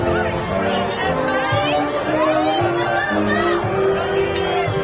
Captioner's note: crowd chattering